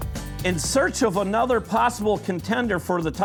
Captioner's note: voiceover